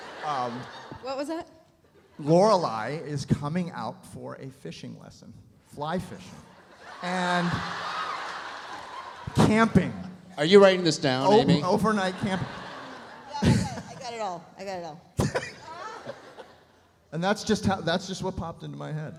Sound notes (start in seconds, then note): 6.5 audience laughs; 15.2 Scott laughs